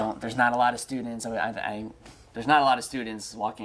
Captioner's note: stutters